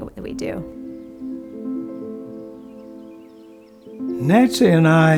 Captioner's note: birds chirping; gentle upbeat music